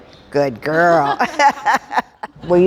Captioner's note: laughing